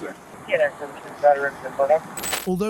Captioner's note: radio chatter